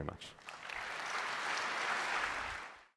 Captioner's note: applause